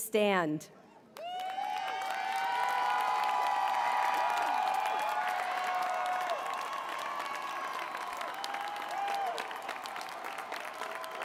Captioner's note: applause